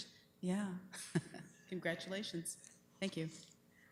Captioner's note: chuckling